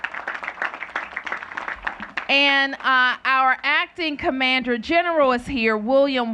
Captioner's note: applause